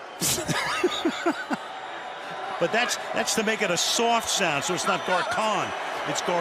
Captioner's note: laughs